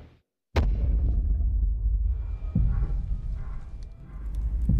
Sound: thumping

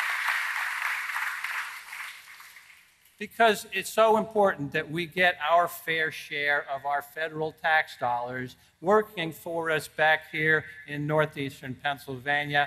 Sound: applause

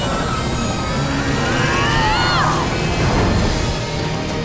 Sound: grunting

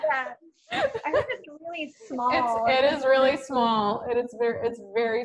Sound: laughter

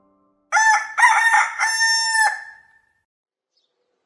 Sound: rooster crowing

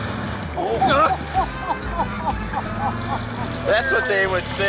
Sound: laughter

